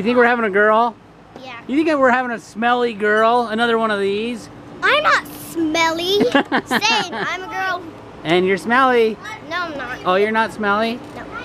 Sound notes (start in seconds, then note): 6.1 dad laughing